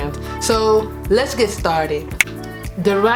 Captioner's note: fingers snap